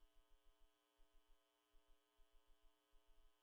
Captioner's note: none